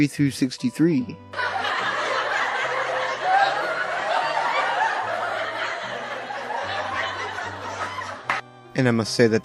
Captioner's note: laughter